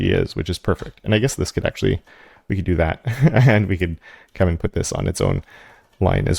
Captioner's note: laugh